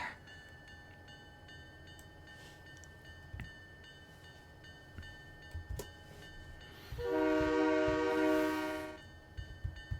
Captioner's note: train whistle